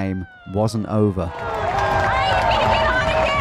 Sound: crowd cheering

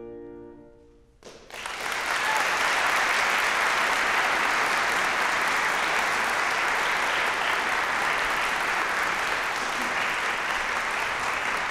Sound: bright classical piano music; applause

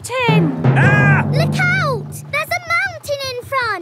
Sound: captain dog screams

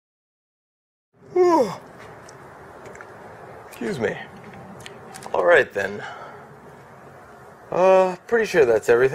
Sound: yawn

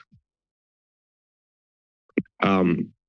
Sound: pause

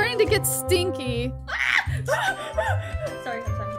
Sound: screams

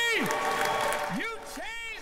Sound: applause

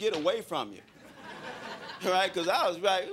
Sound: crowd laughing

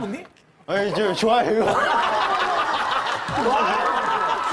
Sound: hosts laugh

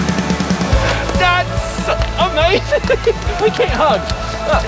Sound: laughs

